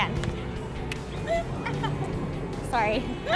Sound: laughing

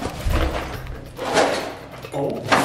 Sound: rumbling in box

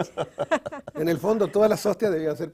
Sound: ríen

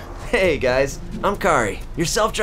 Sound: car voice

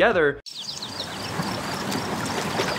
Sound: birds chirping; water running

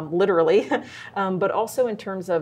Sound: chuckles

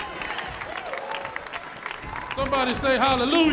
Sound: audience cheering

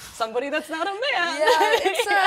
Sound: laughs genuiely

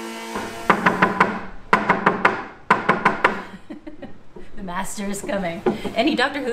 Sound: knocking four times

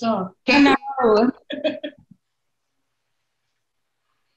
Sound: laughing loudly

